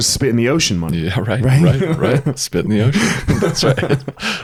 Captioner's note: laughs